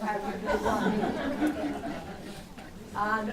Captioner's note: laughter